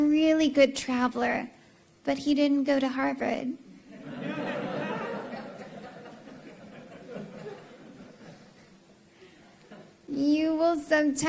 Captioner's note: laughter